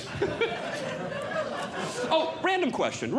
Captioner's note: audience Laughing